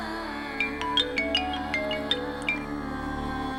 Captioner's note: phone rings